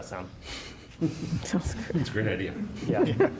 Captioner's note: laughter